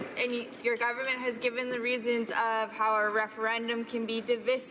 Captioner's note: none